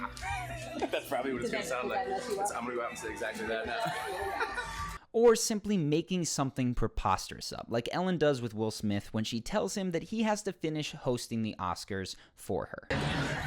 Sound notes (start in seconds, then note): 0.0 laughs; 3.6 laughs